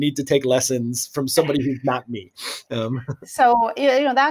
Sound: laughing

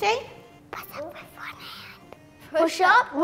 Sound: whispers

